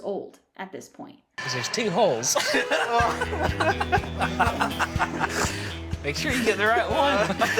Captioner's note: laughing